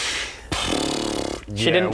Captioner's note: indecisive horse noises